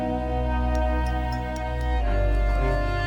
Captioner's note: glass clinking